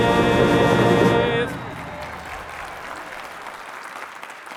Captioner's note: applause